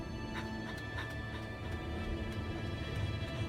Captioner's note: panting; dramatic music